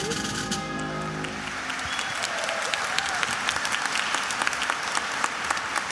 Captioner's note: attendees applauding and cheering